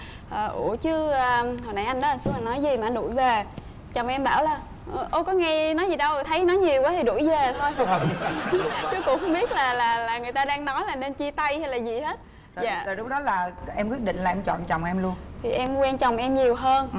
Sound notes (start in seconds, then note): 7.6 laughing